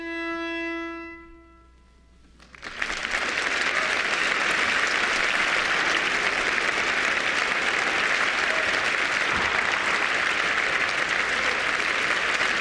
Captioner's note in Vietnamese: Tiếng vỗ tay